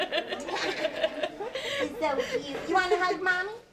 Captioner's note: laughing